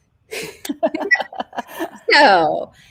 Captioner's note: laugh